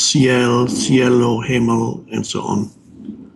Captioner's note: speaking in foreign language